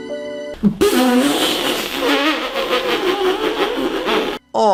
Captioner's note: stifled laughter